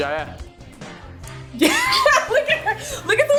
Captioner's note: laughs